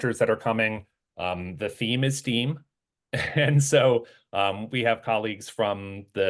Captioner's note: laugh